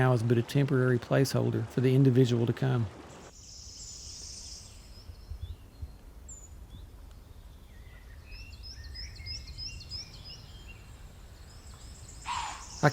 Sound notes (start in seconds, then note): 3.8 birds chirping